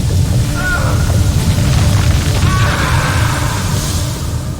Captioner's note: screams